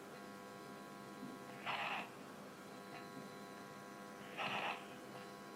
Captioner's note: static buzzing continues